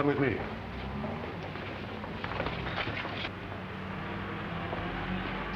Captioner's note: traffic humming